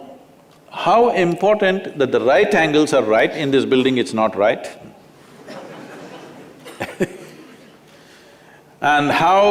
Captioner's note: Laughter